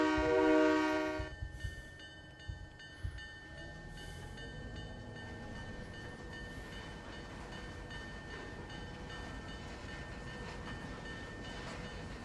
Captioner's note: train whistle